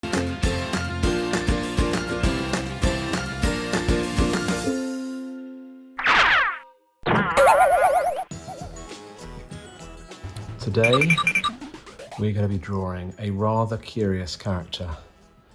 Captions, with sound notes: (upbeat music) (swoosh) - Today, we're going to be drawing a rather curious character,